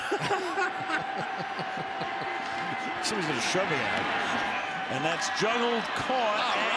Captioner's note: laughter